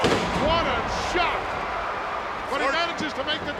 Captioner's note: ground slamming